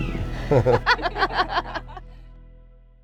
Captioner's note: laugh